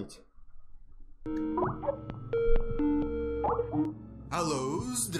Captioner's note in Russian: звуки звонка в скайпе